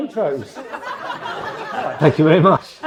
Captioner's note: audience laughs